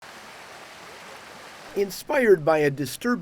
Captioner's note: water rushing